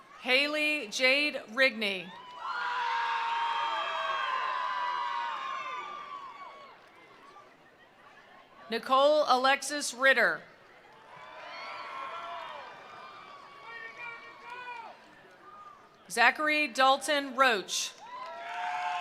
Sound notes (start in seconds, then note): 2.1 attendees cheering; 2.6 attendees applauding; 10.8 attendees cheering; 10.9 attendees applauding; 18.0 attendees cheering; 18.0 attendees applauding